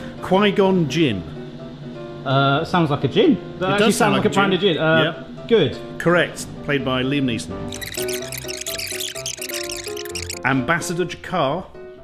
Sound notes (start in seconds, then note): 7.7 fast forwarding sound